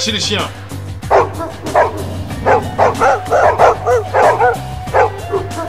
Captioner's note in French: aboiement